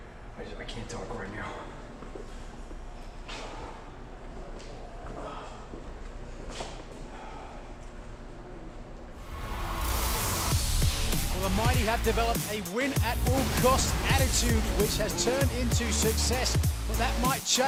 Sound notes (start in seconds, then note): 6.4 breathing hard